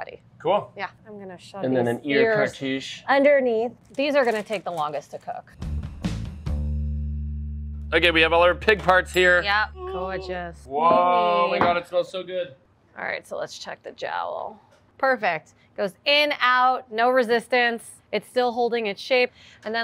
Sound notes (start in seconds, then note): 5.8 rhythmic music; 9.4 buzzer ringing